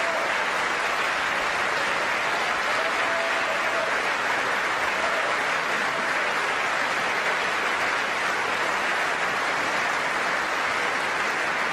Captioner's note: applause